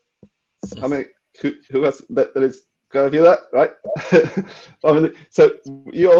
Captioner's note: laughing